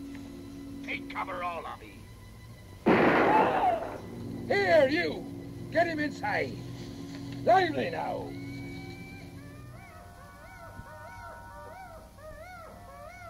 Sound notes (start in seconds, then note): 2.8 gun fires; 3.2 screaming; 8.2 animal screeching